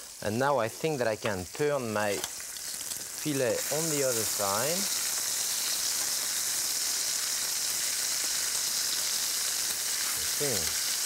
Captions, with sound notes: And now I think that I can turn my filet on the other side. (pan sizzling)